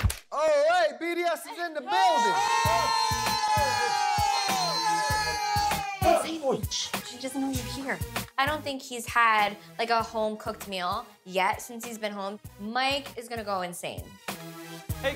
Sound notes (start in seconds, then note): 1.8 cheering; 6.0 whispers